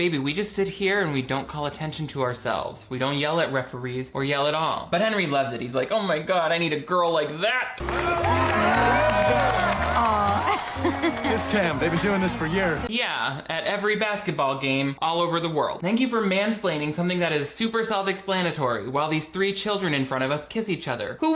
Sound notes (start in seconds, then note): 7.8 crowd cheers; 7.8 light music